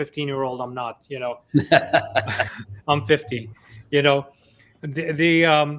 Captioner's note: laughs